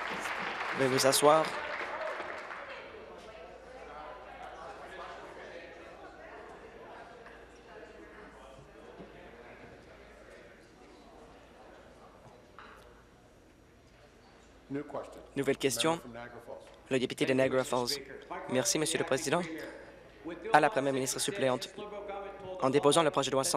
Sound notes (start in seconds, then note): 0.0 applause; 8.5 conversation din